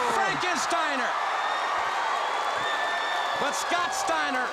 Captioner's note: crowd cheering